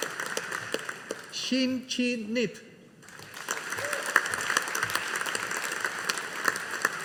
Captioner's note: audience applauding; audience applauding